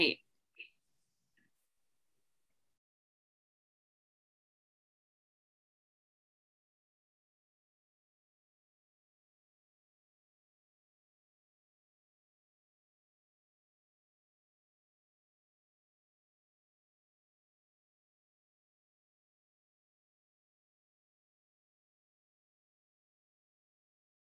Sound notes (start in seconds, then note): 0.2 silence